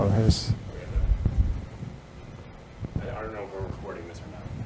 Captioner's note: speaking faintly